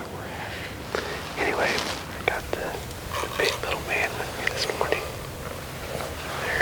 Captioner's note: whispering